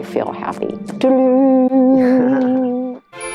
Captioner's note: making musical note